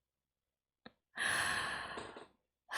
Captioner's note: breathes in